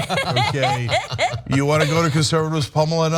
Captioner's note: laugh